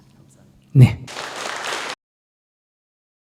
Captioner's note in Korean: 청중 박수